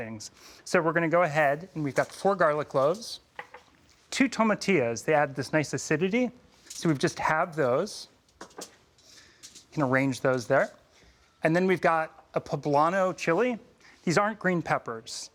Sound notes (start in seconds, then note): none